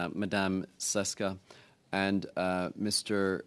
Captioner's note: speaking French